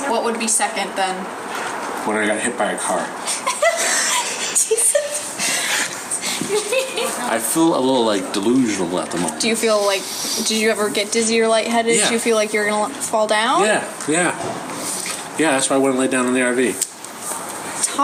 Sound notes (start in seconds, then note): 3.2 laugh; 3.2 laughing